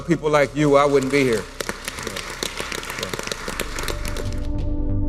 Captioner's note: applause